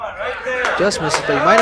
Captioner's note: applause